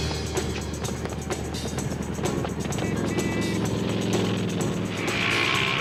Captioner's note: random weed eater sound effects